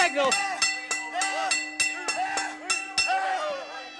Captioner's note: bell dinging